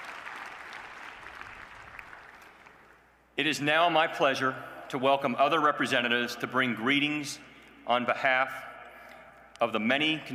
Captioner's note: applause